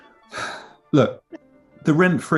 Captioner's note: sighs